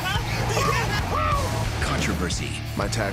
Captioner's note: laughing